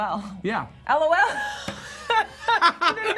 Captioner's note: laughter